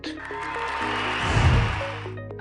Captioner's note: cheering